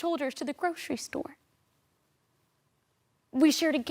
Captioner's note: silent